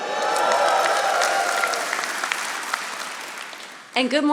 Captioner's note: audience applauding